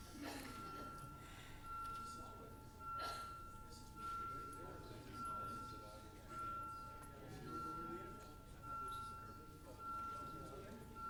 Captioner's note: off microphone